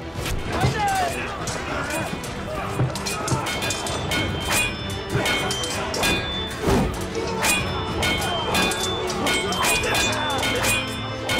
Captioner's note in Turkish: Çarpışma sesleri